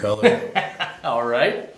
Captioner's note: laughter